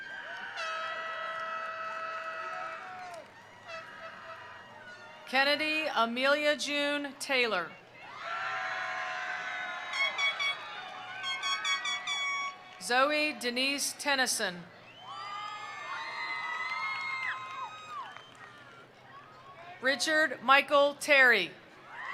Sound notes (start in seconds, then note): 0.0 attendees cheering; 0.0 attendees applauding; 8.1 attendees applauding; 8.1 attendees cheering; 15.0 attendees applauding; 15.0 attendees cheering